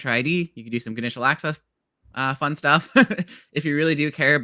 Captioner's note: laughs